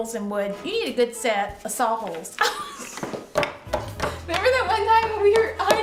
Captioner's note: laughs